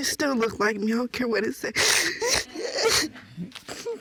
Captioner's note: sobbing